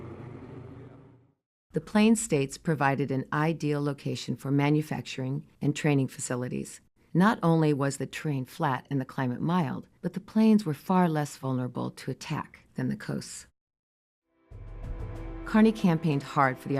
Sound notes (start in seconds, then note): 1.4 plane engines roaring; 15.1 light drumming